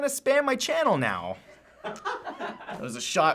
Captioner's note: cracks up